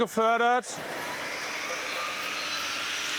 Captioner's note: rising whir